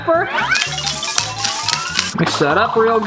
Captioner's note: pepper container rattling